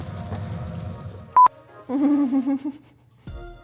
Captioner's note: beeping; chuckling